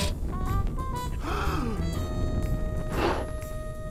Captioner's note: gasps; blows softly